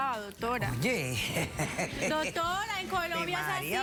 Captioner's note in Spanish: risas